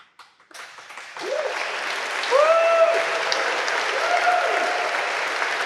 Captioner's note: audience applauding